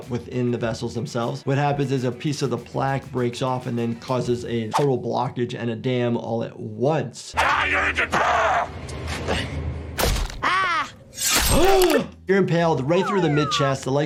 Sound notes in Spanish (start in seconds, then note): 9.3 grita; 10.0 golpes en la caja; 11.3 El doctor jadea; 11.3 silbidos metálicos